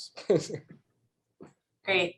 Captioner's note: laughs